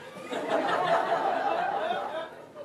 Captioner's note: laughter